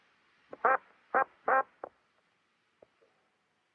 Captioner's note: radio squawking choppily